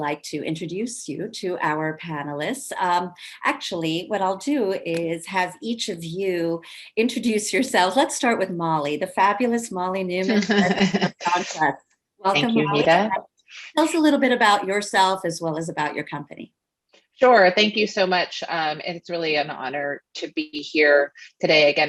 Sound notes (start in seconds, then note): 10.2 laughs